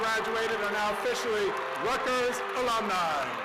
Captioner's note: cheers and applause